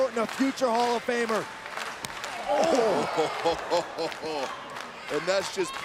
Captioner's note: applause; laugh